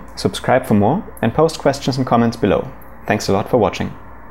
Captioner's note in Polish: w języku angielskim